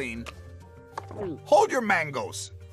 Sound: gulps

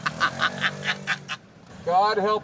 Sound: honk

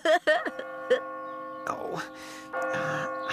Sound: clock Chiming; moaning

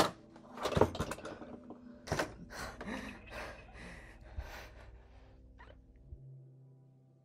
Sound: whimpering

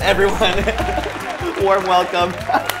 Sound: laughing

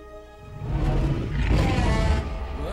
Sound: growl & rawr

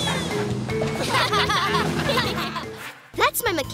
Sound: laughing

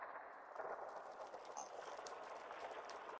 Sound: splashing

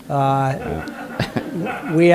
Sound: laughter

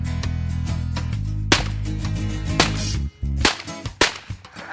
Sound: gun firing

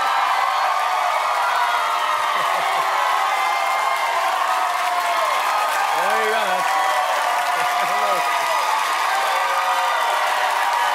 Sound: cheers and applause

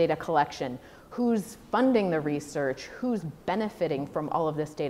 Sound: none

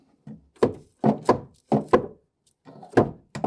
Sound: hammering

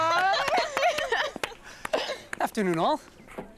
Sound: laughs

